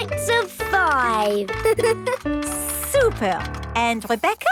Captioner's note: giggles